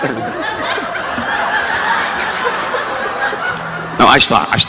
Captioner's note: audience laughing